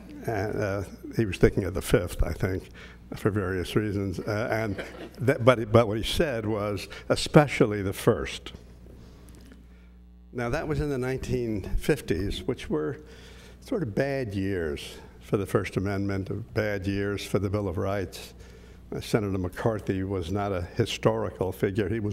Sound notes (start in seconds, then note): 4.4 laugh